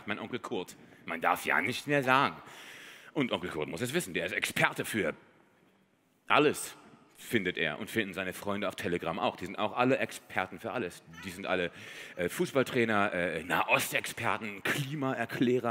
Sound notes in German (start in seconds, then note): none